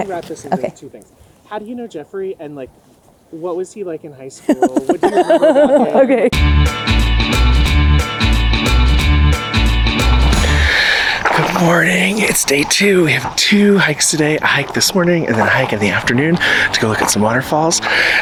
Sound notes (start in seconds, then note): 4.4 group laughing; 6.3 upbeat music